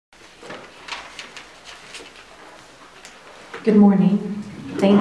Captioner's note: papers rustling and chairs sliding